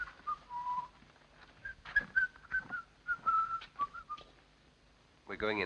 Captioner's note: whistling; whistling continues